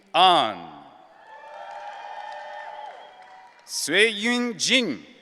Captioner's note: audience cheering